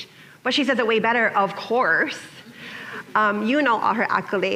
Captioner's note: chuckling